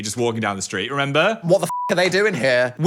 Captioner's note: beep